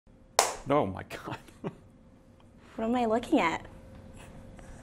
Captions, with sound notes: (hands clap) - Oh my god. (laughs) - What am I looking at?